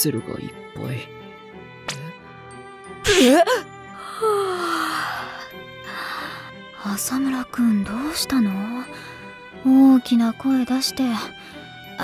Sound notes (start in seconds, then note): 4.0 yaaaawn